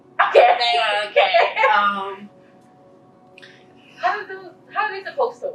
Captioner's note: laughing